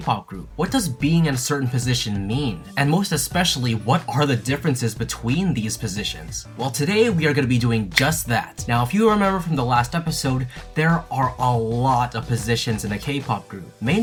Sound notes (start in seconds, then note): 7.9 snap